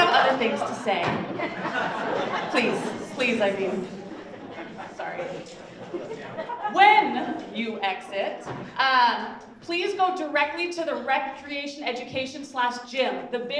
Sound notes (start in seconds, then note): 1.2 audience laughs; 6.1 audience chuckles